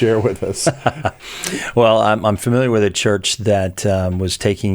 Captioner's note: laughs